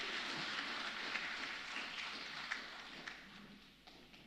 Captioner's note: applause